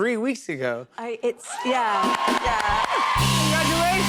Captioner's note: cheers and applause